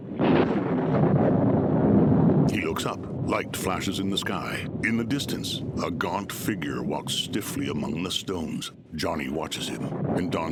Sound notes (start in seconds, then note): 3.3 thunder cracking